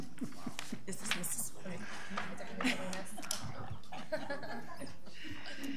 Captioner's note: laughing